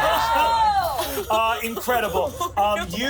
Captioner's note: everyone laughs